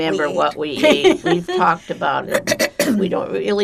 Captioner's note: clears throat